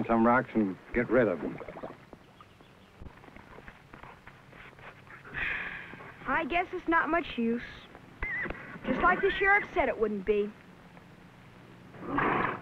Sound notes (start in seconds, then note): 5.1 sighs